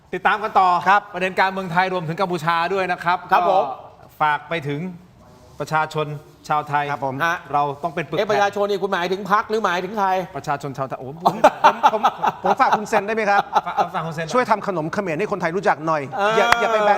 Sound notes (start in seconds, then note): 11.2 laughter